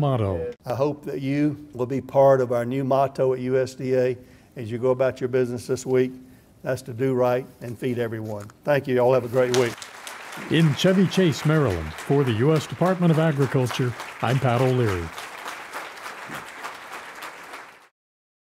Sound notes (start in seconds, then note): 9.8 applause